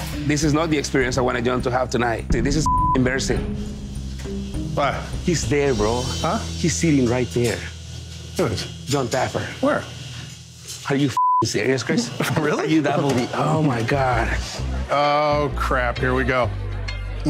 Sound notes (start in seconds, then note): 2.6 beeps; 11.1 beeps; 16.4 reggae music